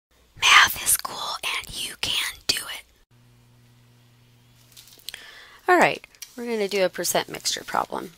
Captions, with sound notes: >> [whispering] Math is cool, and you can do it. >> Alright. We're going to do a percent mixture problem.